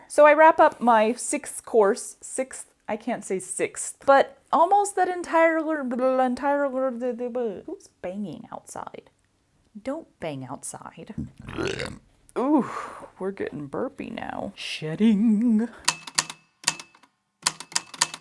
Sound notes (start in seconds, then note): 11.3 massive rolling belch; 15.7 the typewriter clicks and clacks away, with dings here and there